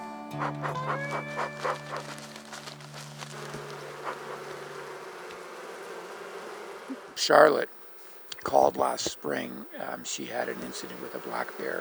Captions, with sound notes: (bees buzzing) Charlotte called last spring. She had an incident with a black bear.